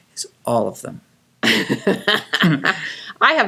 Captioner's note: laughing